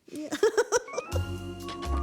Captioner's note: laughs